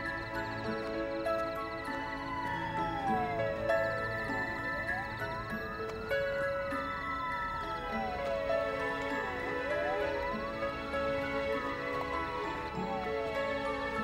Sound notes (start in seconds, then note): 0.5 soft orchestral music; 3.0 siren blaring